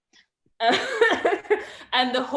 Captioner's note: laughs